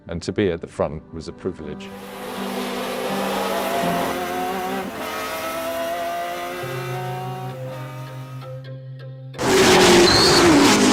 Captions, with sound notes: And to be at the front was a privilege. (engines roaring) (stirring music)